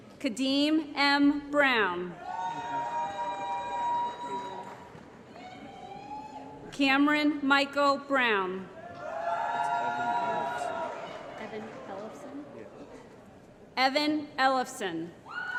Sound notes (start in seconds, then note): 2.3 applause & Cheering; 9.2 applause & Cheering